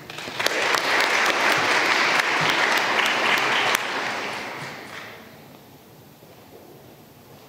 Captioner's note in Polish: oklaski